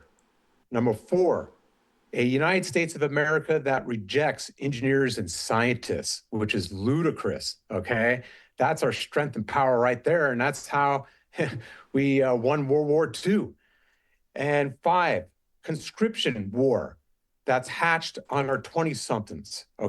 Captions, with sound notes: Number four, a United States of America that rejects engineers and scientists, which is ludicrous. kay? That's our strength and power right there, and that's how [chuckle] we, uh, won World War II. And five, conscription war that's hatched on our 20-somethings.